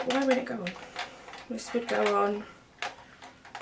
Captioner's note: clattering; clattering noises